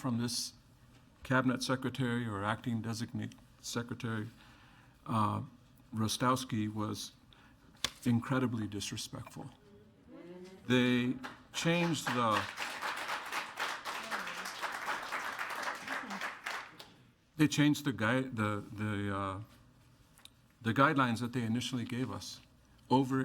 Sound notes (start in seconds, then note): 11.1 attendees applauding